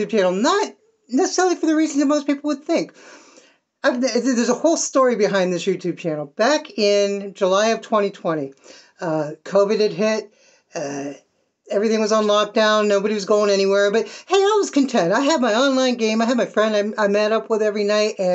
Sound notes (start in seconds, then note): 3.8 stammer